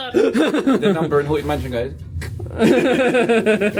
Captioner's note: screams and laughs; both laughing; clicks